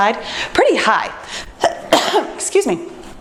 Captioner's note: coughs